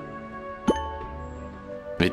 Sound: bloop!

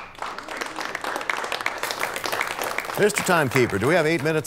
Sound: applause

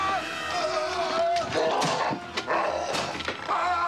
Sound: growling

